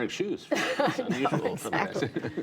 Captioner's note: laughter